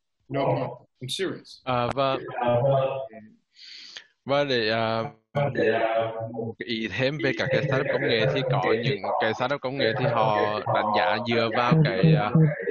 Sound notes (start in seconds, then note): 1.6 speaking Vietnamese